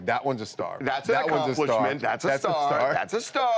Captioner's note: laughter